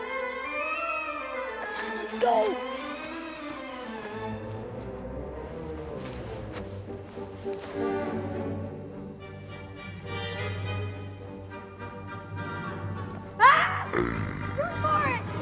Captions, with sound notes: Come on, let's go. (suspenseful orchestral music) (screaming) (growling)